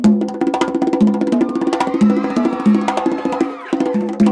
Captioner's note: audience cheering